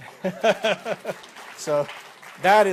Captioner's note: applause